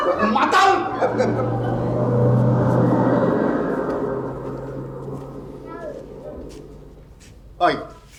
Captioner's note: car departs